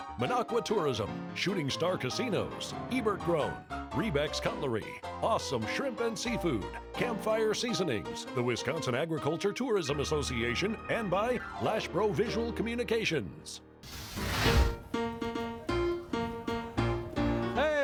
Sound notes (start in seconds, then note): 13.8 fire roars; 14.4 jaunty piano music